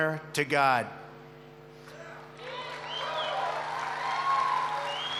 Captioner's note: applause